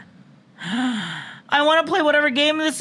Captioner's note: gasp